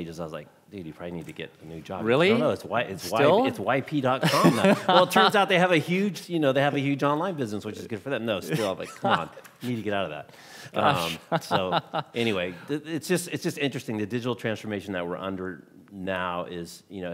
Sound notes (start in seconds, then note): 10.8 laughing